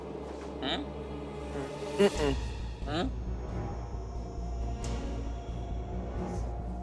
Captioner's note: dramatic music continues; players humming